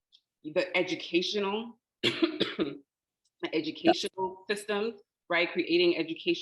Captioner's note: coughing